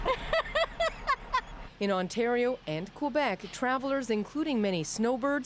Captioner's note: laughter